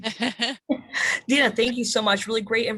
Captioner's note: laughs